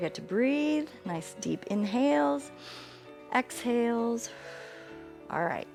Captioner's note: exhales; inhales